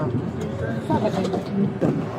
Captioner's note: speak in Foreign language